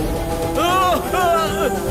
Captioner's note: Seetharam screams